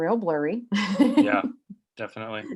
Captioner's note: laughing